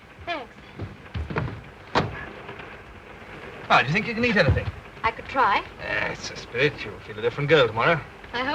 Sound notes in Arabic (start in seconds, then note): 0.8 صوت النافذة تنفتح